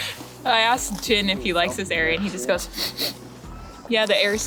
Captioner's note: sniff sniff